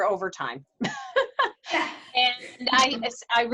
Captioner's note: laughs